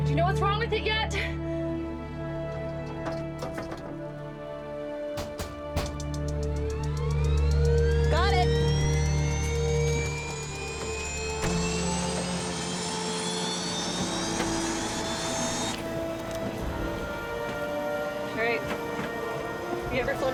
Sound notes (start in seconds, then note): 6.1 motor starts